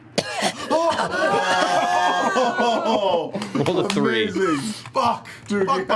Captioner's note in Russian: кашляет